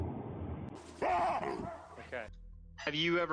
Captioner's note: loud barking; distant barking